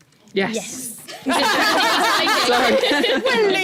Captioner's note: laughter